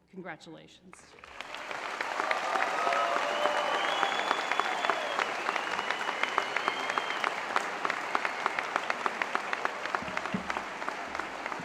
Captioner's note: applause